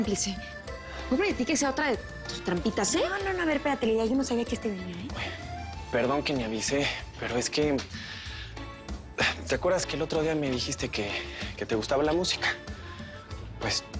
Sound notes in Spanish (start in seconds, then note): none